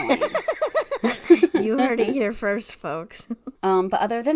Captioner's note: laughs